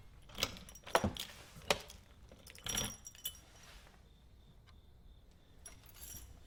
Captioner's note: lock clattering; keys rattling